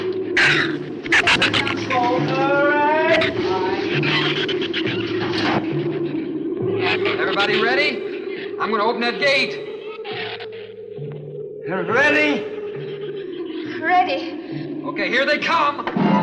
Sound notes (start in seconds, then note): 0.3 shrew snarls; 5.1 drums clunk; 15.9 shrews chatter; 15.9 tense orchestral music